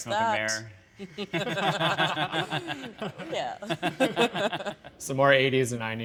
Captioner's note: laughs